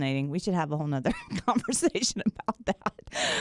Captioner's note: laughs